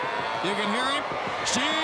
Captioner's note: crowd cheering